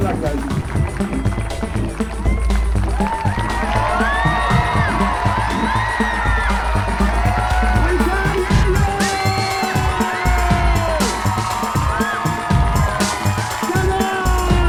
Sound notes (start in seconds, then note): 2.5 audience cheering and applauding; 8.0 music drowns out announcer